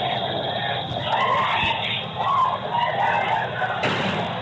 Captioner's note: yelling; crowd screaming; gunshot